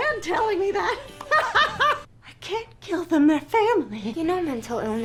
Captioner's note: laughs